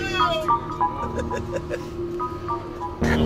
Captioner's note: laughter